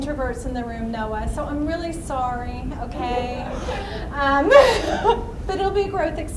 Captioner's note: laughs